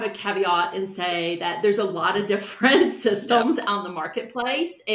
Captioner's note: chuckles